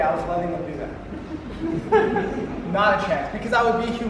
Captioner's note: audience giggles